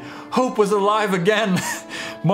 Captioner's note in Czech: vypravěč se hihňá